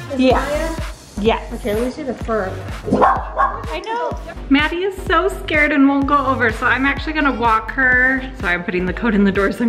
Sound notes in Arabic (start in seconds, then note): 2.8 كلب ينبح